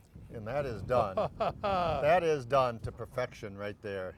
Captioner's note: laughs